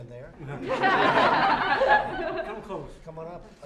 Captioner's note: laughter